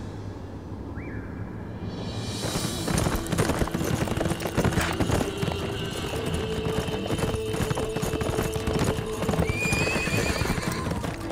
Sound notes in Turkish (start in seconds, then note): 2.0 Aksiyon müziği; 9.4 At kişniyor